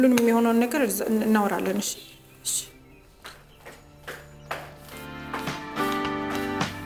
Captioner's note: foot steps